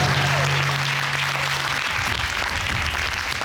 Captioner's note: audience applauding